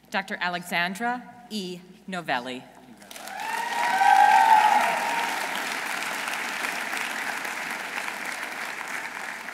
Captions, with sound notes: Dr. Alexandra E. Novelli. -(audience cheering) -(audience applauding)